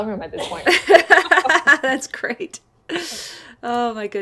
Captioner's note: laughing